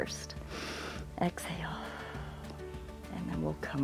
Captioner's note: exhales; inhales